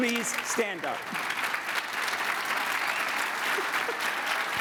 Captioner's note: audience applauding